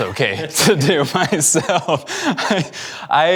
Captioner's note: laughing